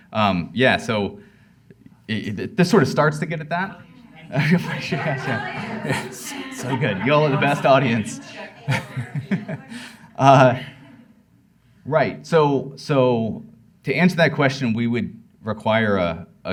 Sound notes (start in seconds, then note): 11.0 laughs